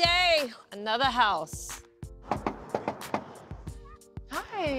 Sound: knocking at door

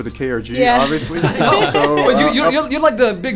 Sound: laughter

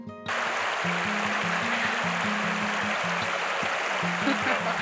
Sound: river sound

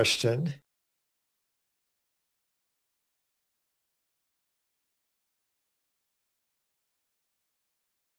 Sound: A pause

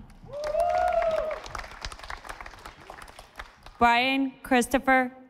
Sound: audience applauding

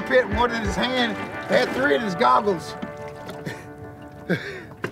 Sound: laughs

